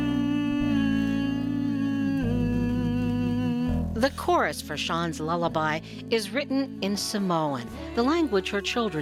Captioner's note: humming melody